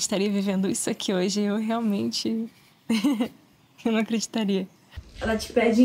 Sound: chuckles

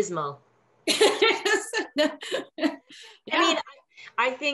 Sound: laughs

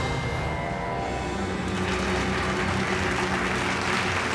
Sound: clapping

